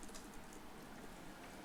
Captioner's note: keyboard tapping